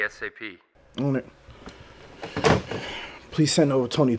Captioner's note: phone receiver thuds